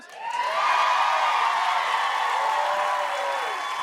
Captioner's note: cheers and applause